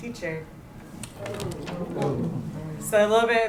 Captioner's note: non-english